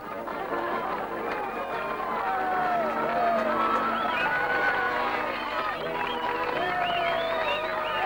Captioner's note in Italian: Applauso